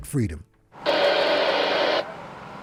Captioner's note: radio static